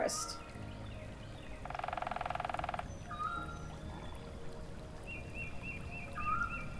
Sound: birds singing; gentle music

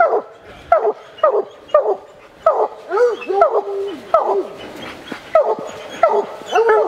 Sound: dogs barking

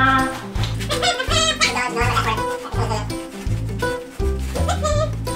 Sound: Donald squeaks; lively music

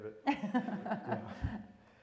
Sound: laughter

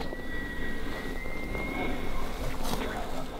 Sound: elk Bugling

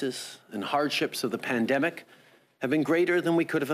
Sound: speaking French

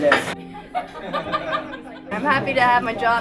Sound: people laughing

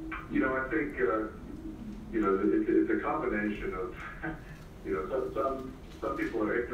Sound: laugh

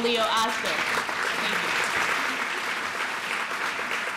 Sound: applause

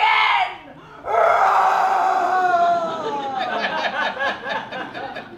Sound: lion roars

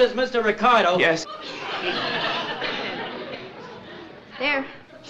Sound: audience laughs

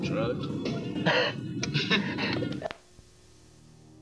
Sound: laughing; ominous music

